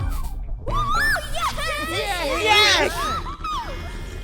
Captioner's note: everyone cheering